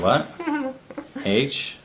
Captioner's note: laughs